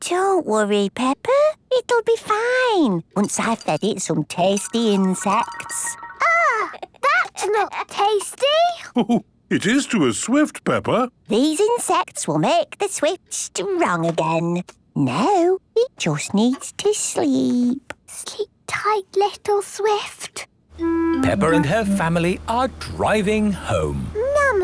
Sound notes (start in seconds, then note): 8.1 George laughing; 18.3 whispering